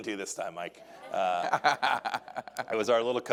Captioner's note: audience laughing